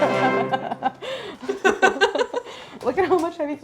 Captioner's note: victorious music; laughing